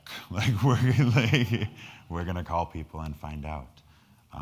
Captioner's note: laughs